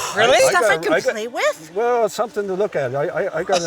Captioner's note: gasp